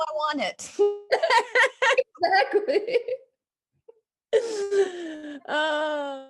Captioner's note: both laughing; laughs